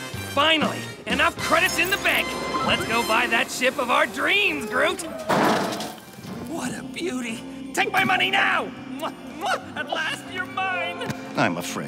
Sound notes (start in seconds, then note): 5.3 thuds; 9.5 kissing